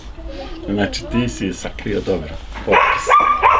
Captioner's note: laugh